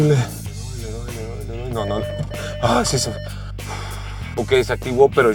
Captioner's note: alarm beeping; sighs